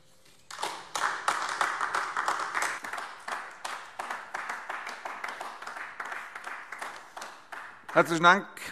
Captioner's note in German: Beifall AfD